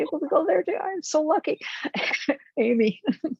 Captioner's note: chuckles